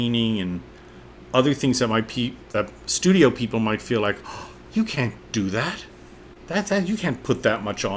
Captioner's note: gasps